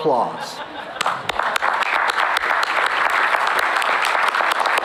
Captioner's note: applause